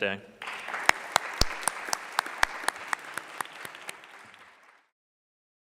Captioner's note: clapping